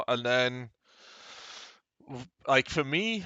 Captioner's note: inhales deeply